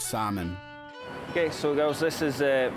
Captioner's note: with Scottish accent